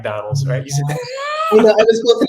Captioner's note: laugh